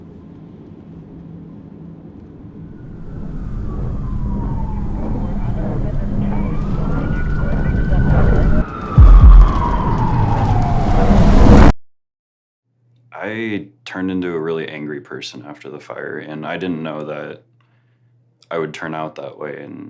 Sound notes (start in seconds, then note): 3.3 sirens wailing